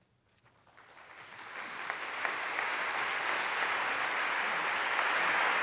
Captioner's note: applause